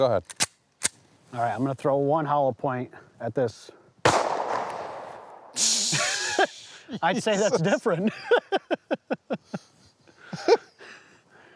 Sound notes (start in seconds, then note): 0.2 gun clicks; 4.0 gun bangs; 5.6 laughs